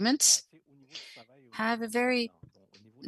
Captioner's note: speaking French